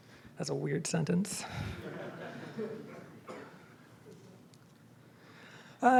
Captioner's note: audience laughs